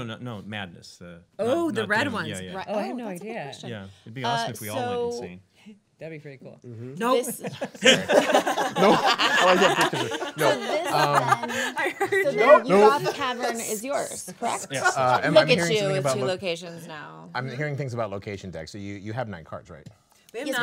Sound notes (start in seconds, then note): 2.8 chattering; 7.2 laughing